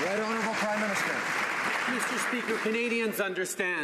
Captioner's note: some Applause